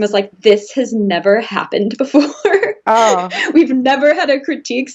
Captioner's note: laughs